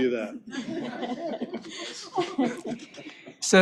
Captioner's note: laughter